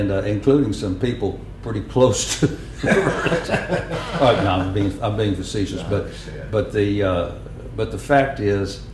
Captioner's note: laughter